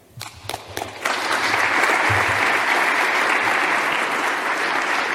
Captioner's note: audience applause